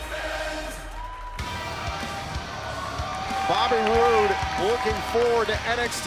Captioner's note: crowd cheering